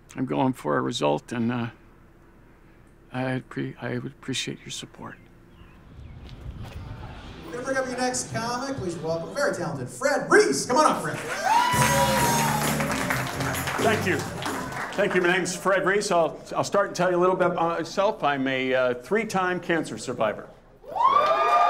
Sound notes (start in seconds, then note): 12.3 audience clapping; 20.8 audience cheering